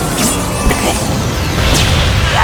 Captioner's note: cough